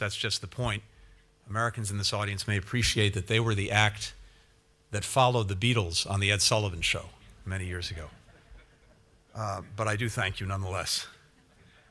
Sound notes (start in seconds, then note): 8.2 laughter